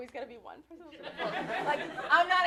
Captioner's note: laughter